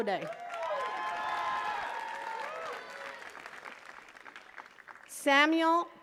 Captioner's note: attendees cheering and clapping